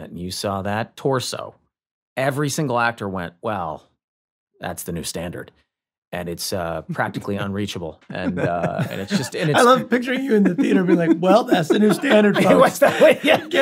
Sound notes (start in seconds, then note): 8.1 Rob laughs; 8.1 laughs